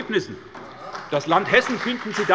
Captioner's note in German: Beifall bei der SPD